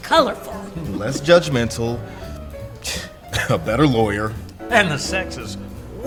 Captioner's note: scoffs